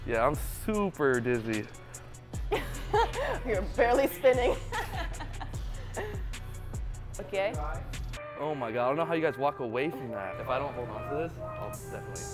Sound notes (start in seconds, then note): 4.4 laughs